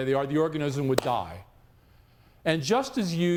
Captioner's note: claps hands